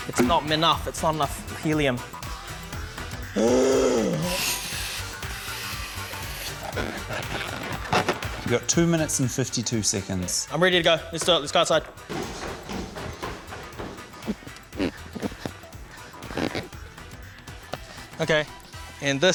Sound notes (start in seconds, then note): 3.3 groans loudly; 4.1 gas hisses; 16.2 balloons squeak